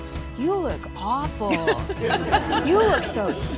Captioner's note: audience laughing